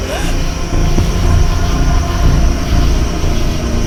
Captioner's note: morgan gasps